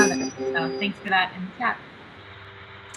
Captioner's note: bell chiming